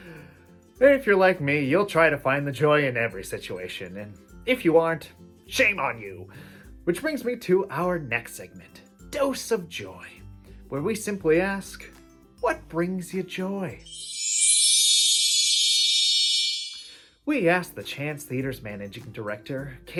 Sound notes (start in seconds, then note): 13.8 fairy, sparkle sounds